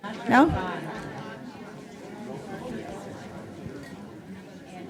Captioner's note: audience chatting